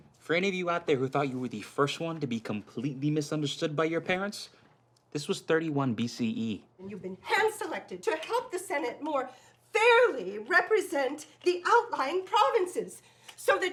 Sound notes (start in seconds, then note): none